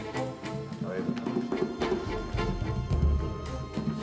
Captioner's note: people chattering indistinctly